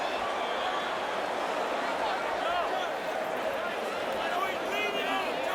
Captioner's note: applause